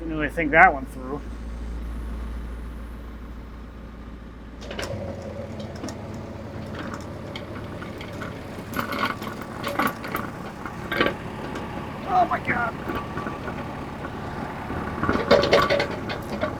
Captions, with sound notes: Didn't really think that one through. (crane engine rumbling) Oh, my God.